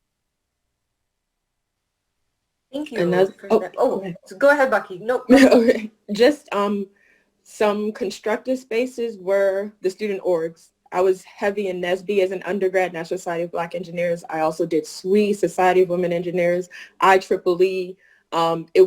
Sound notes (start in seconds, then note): 5.2 laughing